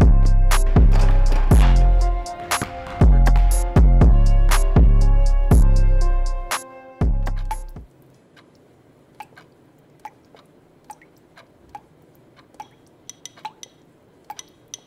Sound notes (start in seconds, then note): 9.0 ticking and dripping; 13.1 tapping